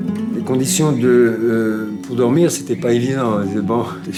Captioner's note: French spoken audio